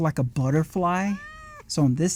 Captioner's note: cat Meowing